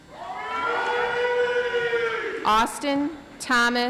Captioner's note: audience applauds